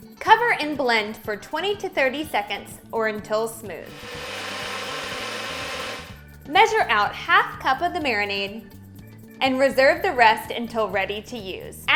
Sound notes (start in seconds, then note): 3.8 blender roars